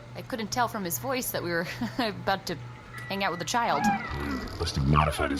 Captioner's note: laughs awkwardly